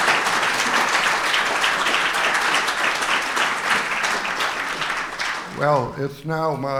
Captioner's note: applause